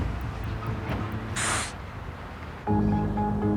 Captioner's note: snorts